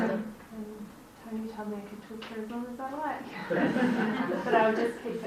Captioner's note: laughter